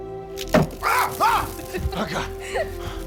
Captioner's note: shouts